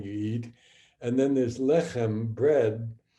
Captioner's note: speaking hebrew